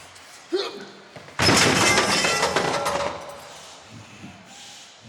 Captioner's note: objects clattering